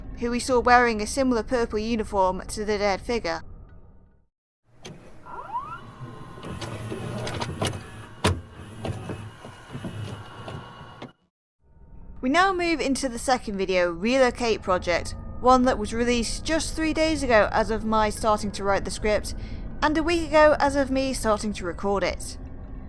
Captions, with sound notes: Who we saw wearing a similar purple uniform to the dead figure. [VHS noises] We now move into the second video, Relocate Project, one that was released just 3 days ago as of my writing the script and a week ago as of me starting to record it.